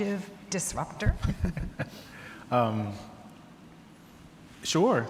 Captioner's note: laughs